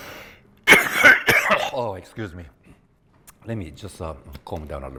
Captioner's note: coughs